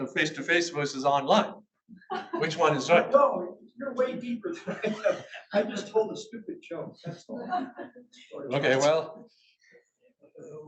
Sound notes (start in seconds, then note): 4.6 audience laughs